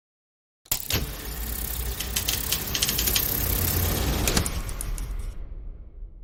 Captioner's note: filmprojector rammelt